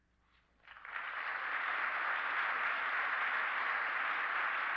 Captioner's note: students clapping